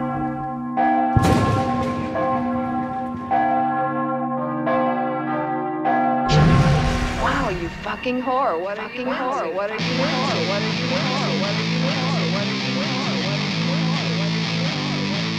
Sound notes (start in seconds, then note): 9.2 echoing